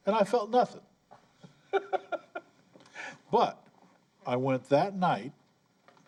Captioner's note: laughter